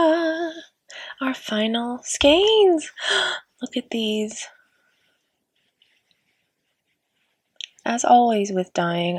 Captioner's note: gasp